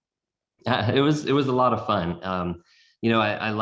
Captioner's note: laughs